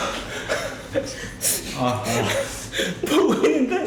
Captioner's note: wiping tears